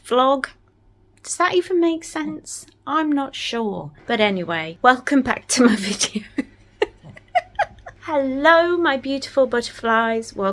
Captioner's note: giggles